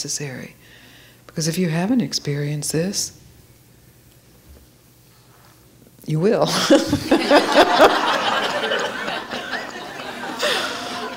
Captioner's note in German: Lachen